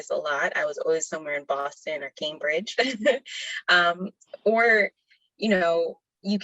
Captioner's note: laughs